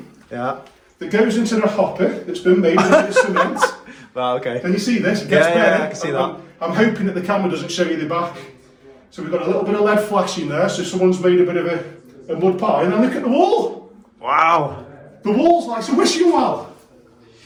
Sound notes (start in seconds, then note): 2.5 laughing